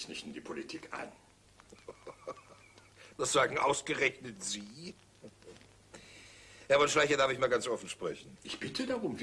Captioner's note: giggles